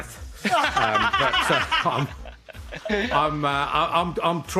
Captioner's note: laughter